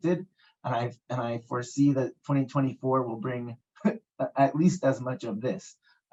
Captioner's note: laughs